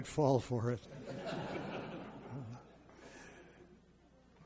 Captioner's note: audience laughs